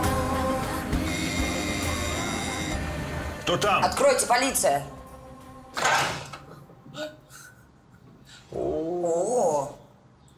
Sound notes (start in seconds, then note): 1.0 door bell rings